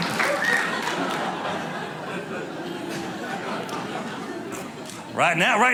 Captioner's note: audience laughing